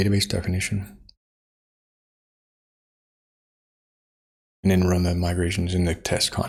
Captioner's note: blank Audio